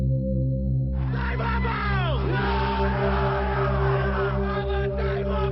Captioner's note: Fijian spoken audio